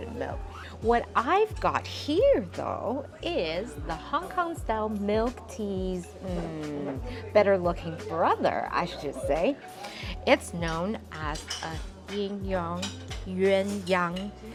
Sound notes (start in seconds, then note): 10.4 Cantonese